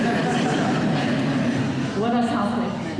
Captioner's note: laughter